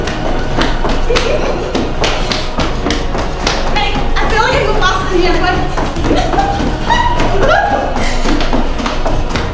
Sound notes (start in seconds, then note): 0.3 intense music; 3.0 feet stomping